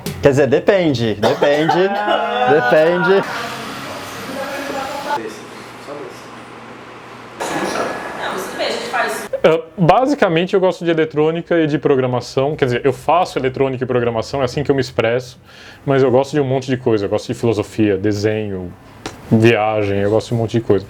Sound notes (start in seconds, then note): 4.1 indistinct chatter